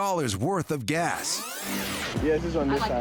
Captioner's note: rewinding